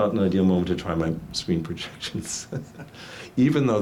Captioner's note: laughs